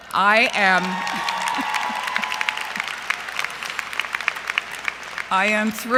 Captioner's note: cheering and Applause